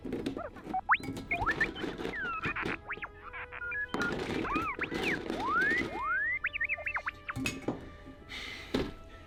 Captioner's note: R7 going off on comlink